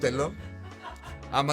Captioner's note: laughs